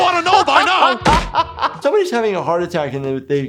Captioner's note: laughs